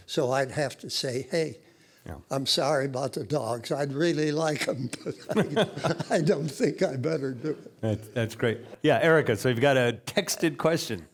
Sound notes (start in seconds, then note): 4.8 laughing